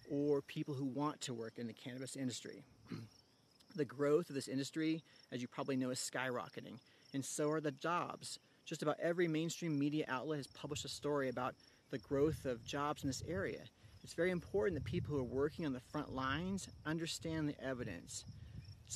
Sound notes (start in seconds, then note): 2.8 cough